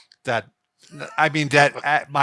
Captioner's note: laughs